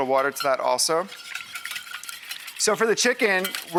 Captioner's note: swooshing